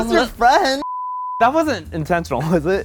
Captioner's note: beep